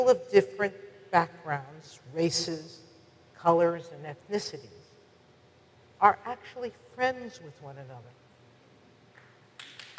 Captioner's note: audience applause